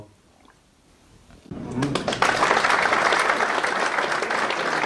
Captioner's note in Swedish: Applåder